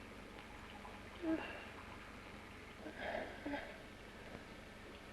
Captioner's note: liquids bubbling; Jan groans softly